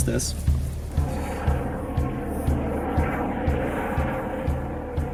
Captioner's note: airplane flying